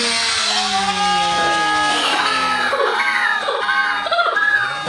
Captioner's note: slow motion engine roaring; slow motion laughing